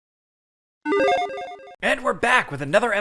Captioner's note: logo beeps